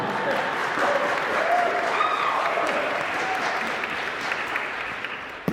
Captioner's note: applause